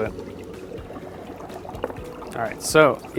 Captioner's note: bubbling picks up